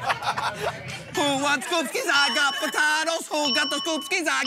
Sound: ding

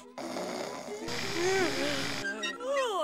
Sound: snoring

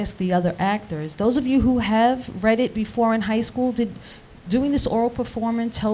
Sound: none

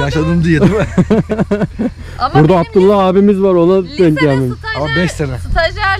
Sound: laugh

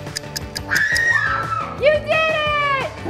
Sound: happy yelling

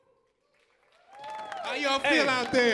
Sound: audience applauding

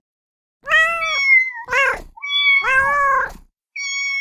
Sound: animal mewing

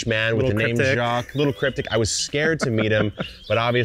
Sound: laughing

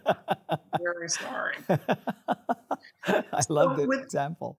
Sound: laughing

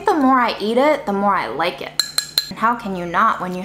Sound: spoon clinking

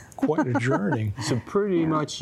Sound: giggling

